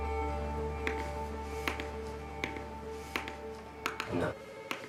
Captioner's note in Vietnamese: tiếng gõ bút